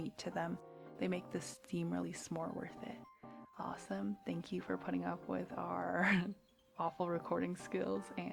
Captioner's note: laughs